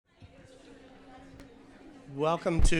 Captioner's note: people chattering